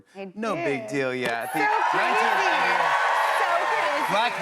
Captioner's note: cheers and applause